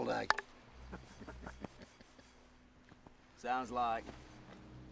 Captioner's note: men laugh